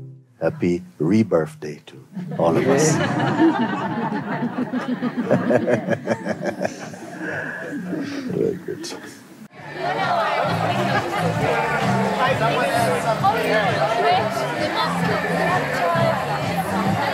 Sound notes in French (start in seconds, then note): 2.1 rires; 9.4 brouhaha et musique